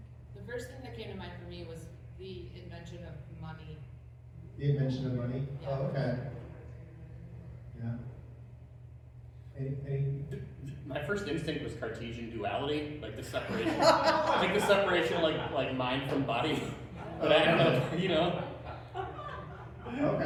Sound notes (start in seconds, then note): 13.4 laughter